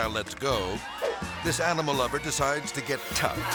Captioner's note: air swoosh